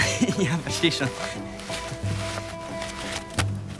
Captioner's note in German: lachend